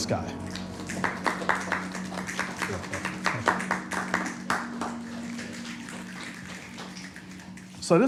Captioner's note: light applause